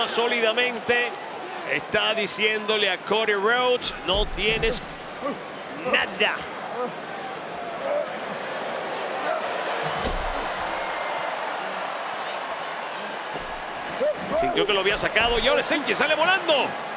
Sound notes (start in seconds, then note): 7.4 applause